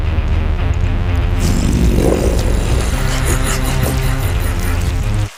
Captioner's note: growls and chuckles